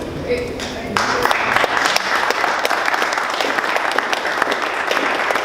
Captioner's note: audience applauding